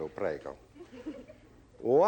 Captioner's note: laughter